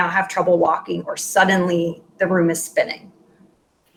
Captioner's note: speaking in Foreign Language